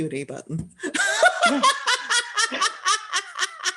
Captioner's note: laughter